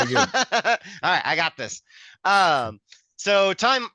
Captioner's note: laughs